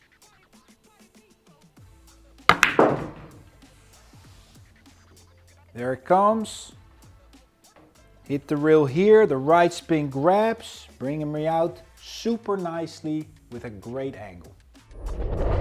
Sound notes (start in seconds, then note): 2.5 ball bangs